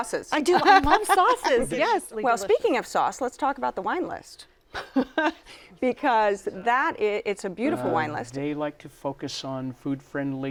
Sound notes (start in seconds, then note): 4.9 laughs